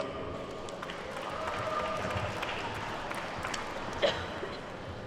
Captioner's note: attendees clapping